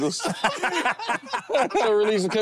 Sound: group laughs

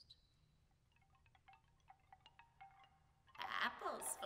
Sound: bamboo chimes

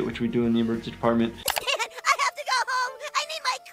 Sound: crying

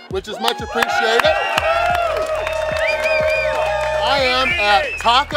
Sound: cheering & Clapping

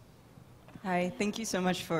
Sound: voiceover

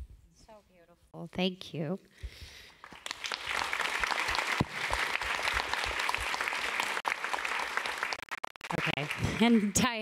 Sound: applause

